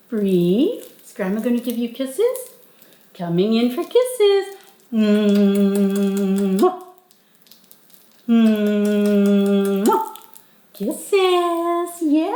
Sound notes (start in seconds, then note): 5.1 humming and kissing